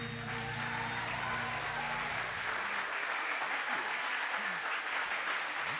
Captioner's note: audience cheers and applauds